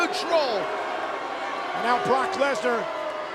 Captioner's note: audience booing